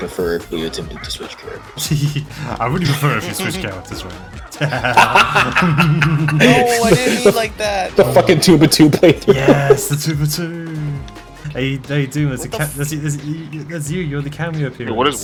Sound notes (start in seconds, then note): 0.0 chuckles; 4.5 laugh